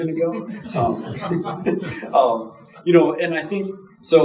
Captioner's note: audience chuckling